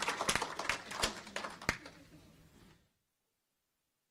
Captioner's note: applause